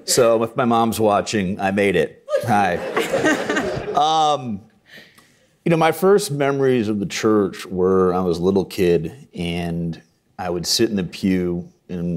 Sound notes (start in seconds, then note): 2.3 all chuckling